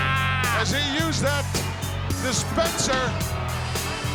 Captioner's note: laugh